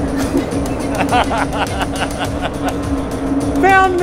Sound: laughs

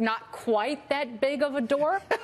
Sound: laughter

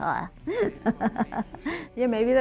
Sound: laughs

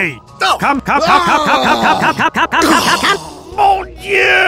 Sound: ascending cums and groans

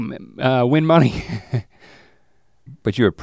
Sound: chuckles

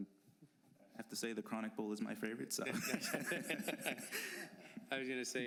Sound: laughter

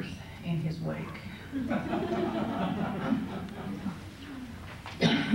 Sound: laughter

